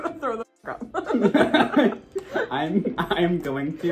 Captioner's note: both laugh